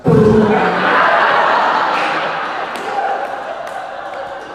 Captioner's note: audience laughing